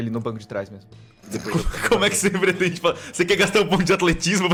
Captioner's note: laughs